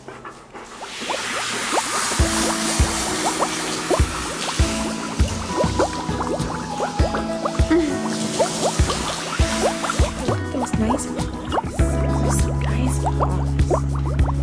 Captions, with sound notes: [Running water] Look at those nice paws. Those are some nice paws.